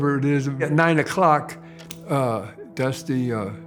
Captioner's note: clock ticking